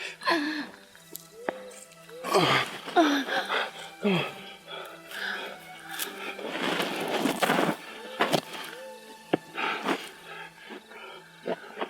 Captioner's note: breathing, struggling